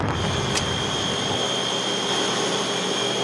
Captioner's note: turbines whirring